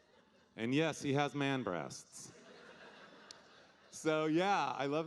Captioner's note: audience laughing